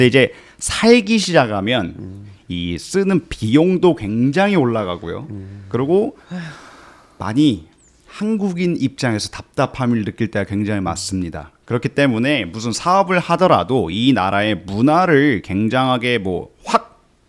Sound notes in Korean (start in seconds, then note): 6.2 한숨